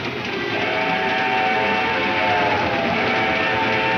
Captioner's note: train horn blares